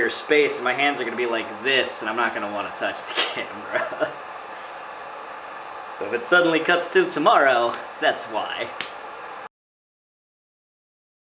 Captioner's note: laughing